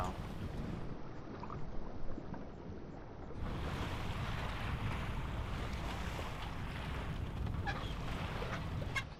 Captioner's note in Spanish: suena la onda